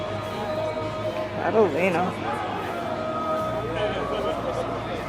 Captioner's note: crowd noise